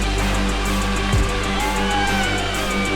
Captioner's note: crowd cheers